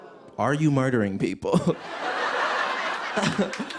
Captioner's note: laughter